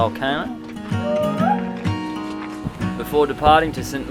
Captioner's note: monkey call